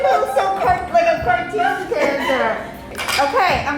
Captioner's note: laughing